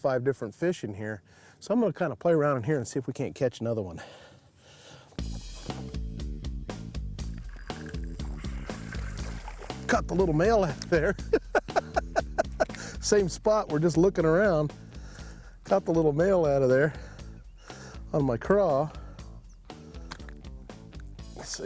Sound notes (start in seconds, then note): 6.4 lively rock music; 11.0 laughs